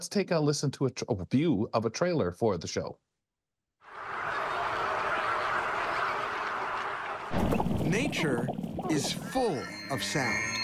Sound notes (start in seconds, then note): 5.7 birds calling